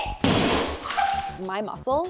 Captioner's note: hammer bangs